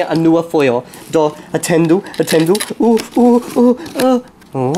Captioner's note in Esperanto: senpaciencaj sonoj